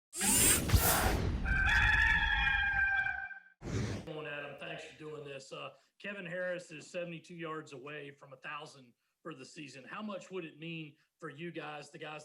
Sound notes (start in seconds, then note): 0.1 machine whirring; 1.4 rooster crows